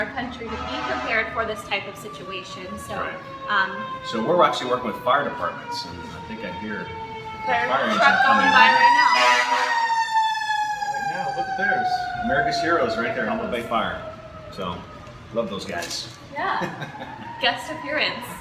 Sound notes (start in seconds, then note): 8.4 fire truck siren